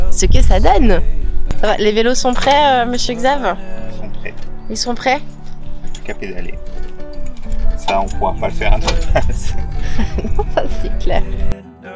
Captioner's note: laughs